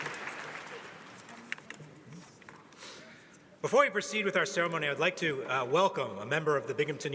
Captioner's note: applause